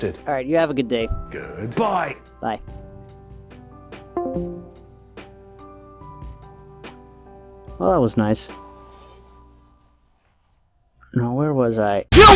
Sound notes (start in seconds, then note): 4.2 Discord call hangup sound